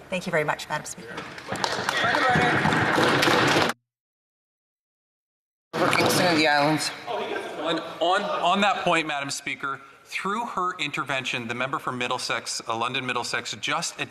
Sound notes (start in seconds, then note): 4.1 applause